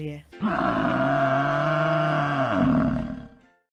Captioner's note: animal moos